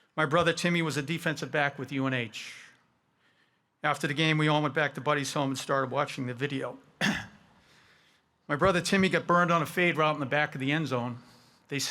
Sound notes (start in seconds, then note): 7.0 clearing his throat